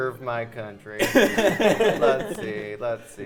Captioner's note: players laughing